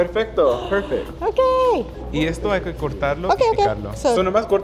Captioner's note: speaking Spanish; gasps; speaking Spanish